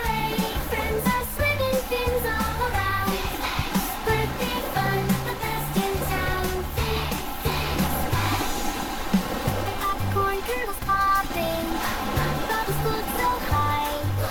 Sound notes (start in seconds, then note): 2.2 splash, splash!; 6.5 splash, splash, splash!; 10.9 pop, pop!; 13.4 whoosh!